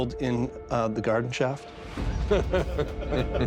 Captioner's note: laughter